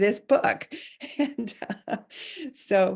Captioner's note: chuckling